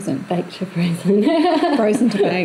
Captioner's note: laughs